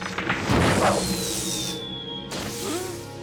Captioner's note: rock whistles through air; crash